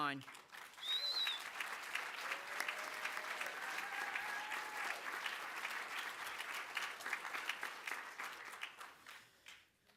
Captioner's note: applause